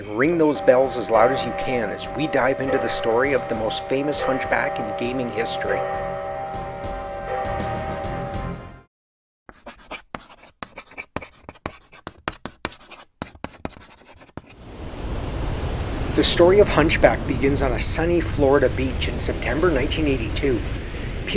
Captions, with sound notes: and ring those bells as loud as you can as we dive into the story of the most famous hunchback in gaming history. [bells ringing] [sound of chalk writing on a chalkboard] The story of Hunchback begins on a sunny Florida beach in September, 1982.